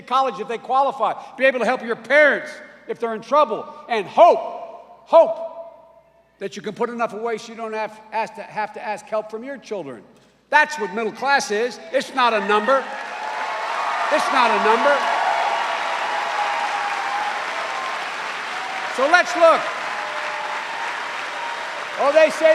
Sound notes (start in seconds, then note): 13.7 cheers and applause